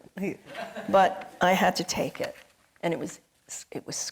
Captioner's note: audience laughing